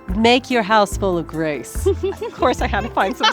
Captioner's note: laughs